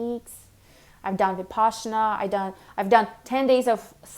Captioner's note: speaks in foreign language